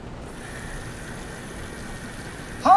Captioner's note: the faucet water runs in the bathroom